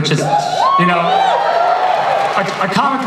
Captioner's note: audience cheering